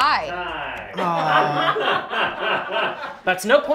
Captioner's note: laughter